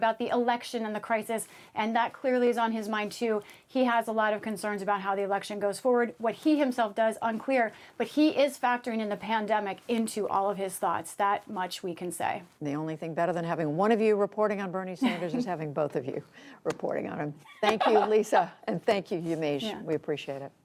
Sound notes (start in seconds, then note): 17.5 laughter